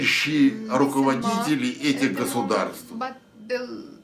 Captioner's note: foreign language